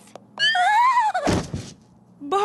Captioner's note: whimpers